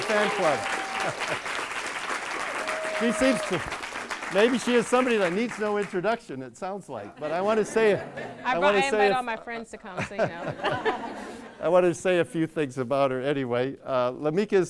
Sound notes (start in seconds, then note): 0.0 audience claps; 0.2 laughs; 7.1 audience laughs; 10.9 laughing